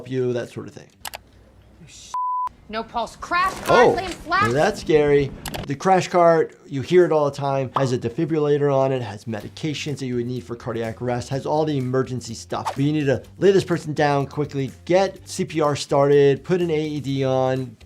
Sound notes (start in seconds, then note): 2.1 beep